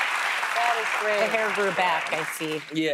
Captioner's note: applause